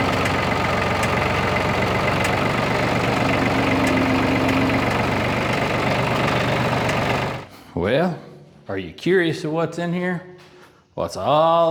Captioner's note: engine Revs